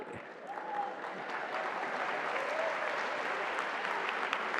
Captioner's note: applause